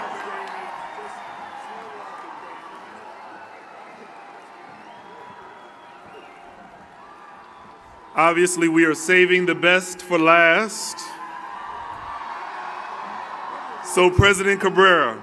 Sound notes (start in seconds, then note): 3.1 cheering and Applause